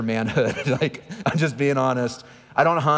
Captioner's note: laughing